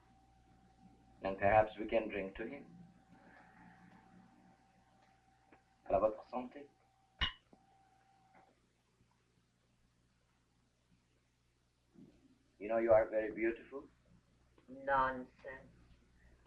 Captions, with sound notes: - Then perhaps we can drink to him. (Pepe speaking foreign language) (glasses clinking) You know, you are very beautiful. - Nonsense.